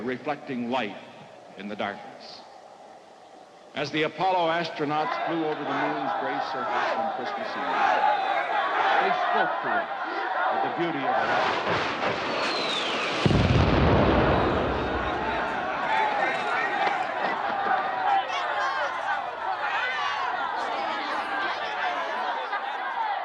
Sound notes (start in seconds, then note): 7.0 protestors' chants grow louder; 11.2 rockets firing, exploding; 14.1 protesters clamoring; 20.4 clamoring continues